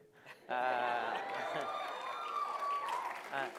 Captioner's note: laughter; cheering